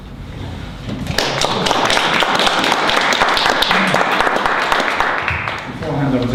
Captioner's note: applause